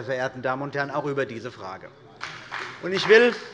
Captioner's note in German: Beifall bei der CDU und dem BÜNDNIS 90/DIE GRÜNEN